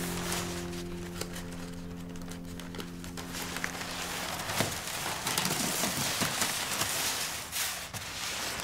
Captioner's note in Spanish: papel cruje